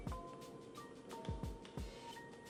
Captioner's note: none